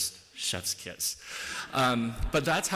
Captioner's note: laughter